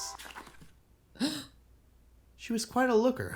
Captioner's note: gasp